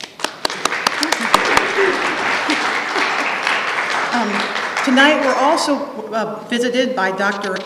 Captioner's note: applause